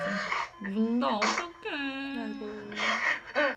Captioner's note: crying too